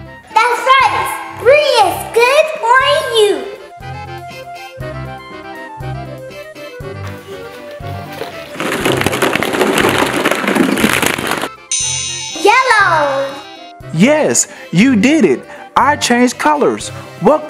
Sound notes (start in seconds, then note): 4.0 comical music; 9.2 balls tumbling; 11.7 chiming